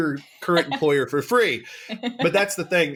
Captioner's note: laughs